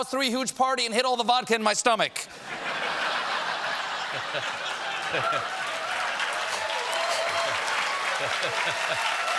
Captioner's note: laughter; applause